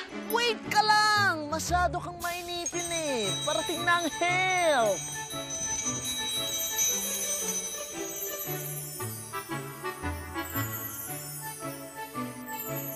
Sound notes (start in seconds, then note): 8.6 sparkling noise